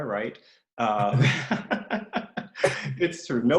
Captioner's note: laughs